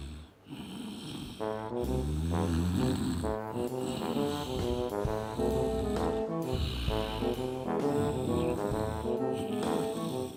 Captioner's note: snoring